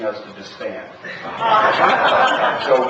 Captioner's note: laughter